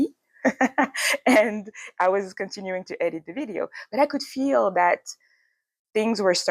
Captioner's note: laughs